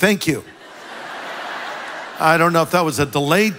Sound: congregation laughs

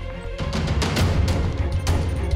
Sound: door opens

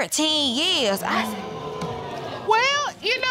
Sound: audience groaning

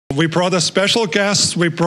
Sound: with Austrian accent

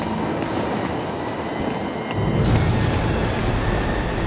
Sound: wind blowing

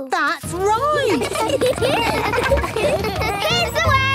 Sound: laughter

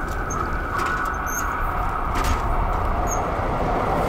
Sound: train engine

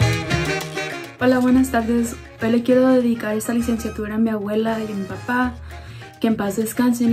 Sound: speaks in foreign language

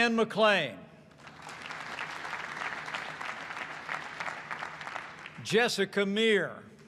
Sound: applause

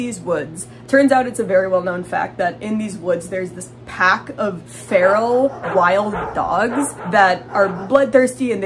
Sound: barking

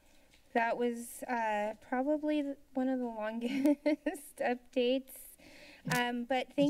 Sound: chuckles

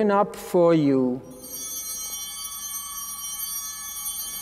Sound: bells ringing

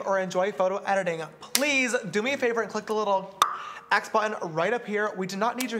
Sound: mouth pop

